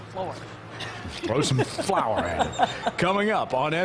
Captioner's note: laughter